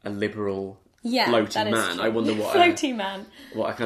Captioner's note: laughs